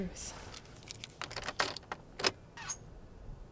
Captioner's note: key scrapes; engine screeching